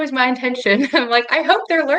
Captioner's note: laughs